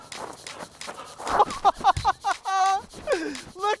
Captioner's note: Josh laughing